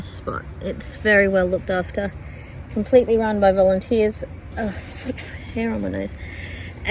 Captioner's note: sputters